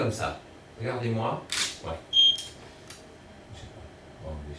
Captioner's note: camera clicking